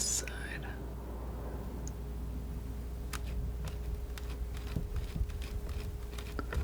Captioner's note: scissors snipping